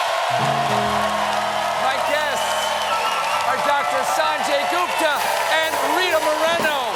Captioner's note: cheers and applause